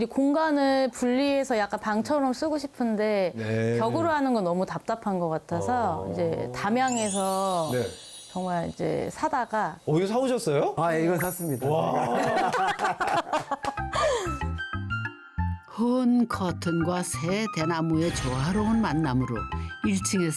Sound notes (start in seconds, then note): 11.4 confident; 11.8 laughter